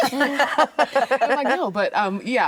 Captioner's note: actresses laughing